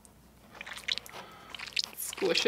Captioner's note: squishing